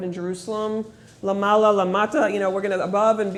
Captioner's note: speaking hebrew